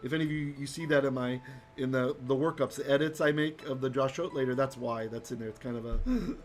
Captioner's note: Hebrew